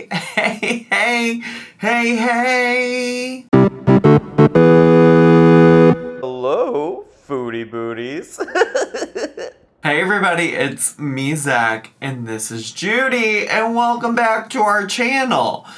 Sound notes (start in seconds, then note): 3.5 bright music; 8.3 laughs